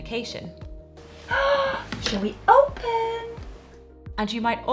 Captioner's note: gasps